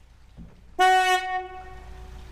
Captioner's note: loud beep of horn